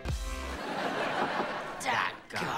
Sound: laughing

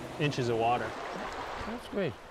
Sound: splashing

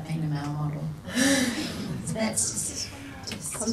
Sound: people laugh

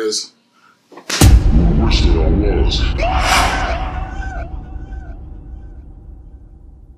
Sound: Jacob screams

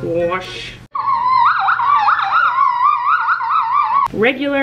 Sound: squealing

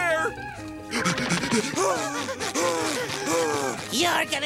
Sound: panting

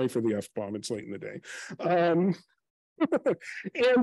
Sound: laughs

